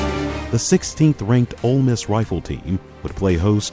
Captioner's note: voiceover